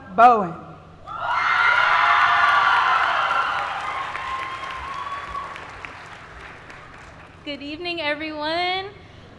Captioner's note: applause